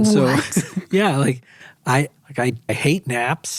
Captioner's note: chuckles